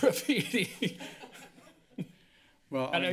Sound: laughs

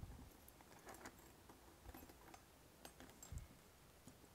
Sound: keys jingling

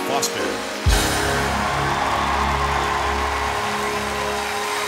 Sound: cheering

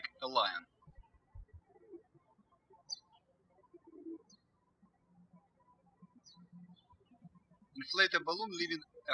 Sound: birds chirping

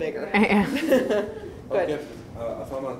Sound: audience laughs

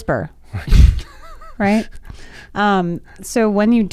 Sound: guys laughing

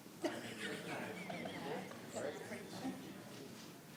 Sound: laughing

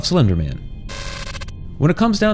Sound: static crackling

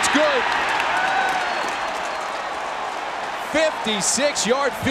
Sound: crowd cheering

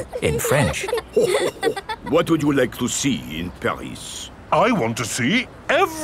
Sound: chuckles

